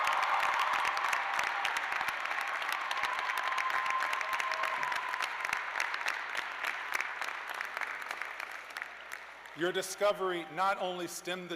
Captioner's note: cheers and applause